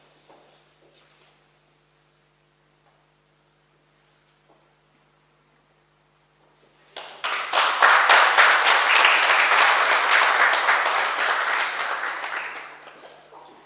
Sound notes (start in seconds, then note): 6.9 oklaski